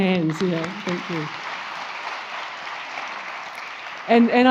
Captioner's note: crowd applauds